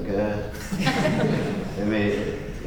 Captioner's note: laughter